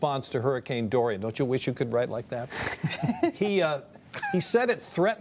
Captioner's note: laughter